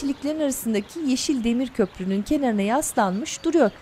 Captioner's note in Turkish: Kuş cıvıltısı sesleri